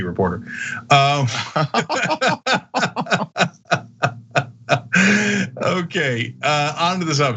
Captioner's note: laugh